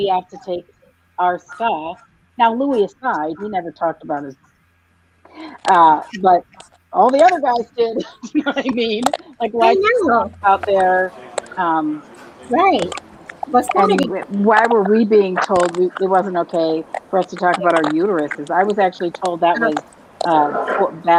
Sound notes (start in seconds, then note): 7.0 laughs